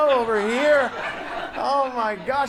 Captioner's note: audience laughs